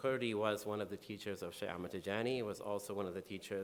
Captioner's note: speaking in foreign language